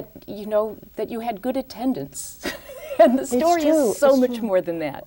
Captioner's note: laughs